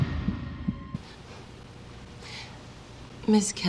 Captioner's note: self-soothing breath